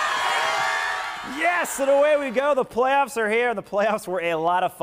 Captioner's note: applause